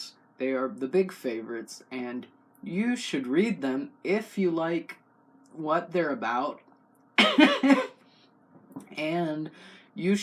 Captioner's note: cough laugh